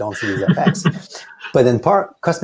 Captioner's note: laughs